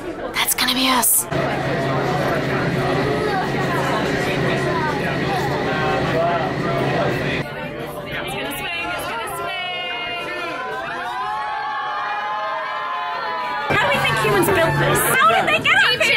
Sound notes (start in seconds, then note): 0.3 room chattering; 10.3 people yelling